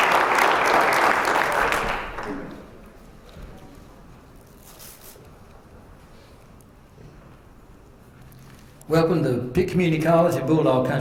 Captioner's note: applause